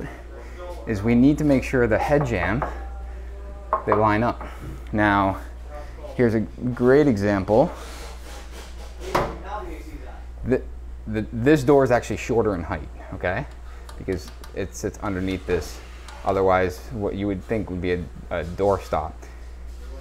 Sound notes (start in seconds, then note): 3.7 builder knocks